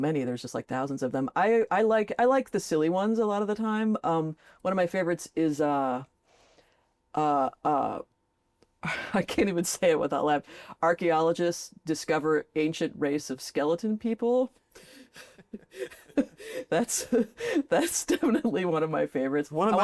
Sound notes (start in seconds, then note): 14.8 both laugh